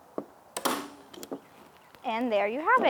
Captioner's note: staple gun clicking